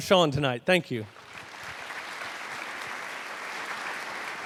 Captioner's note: crowd claps